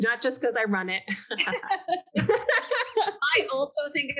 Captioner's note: panelists laughing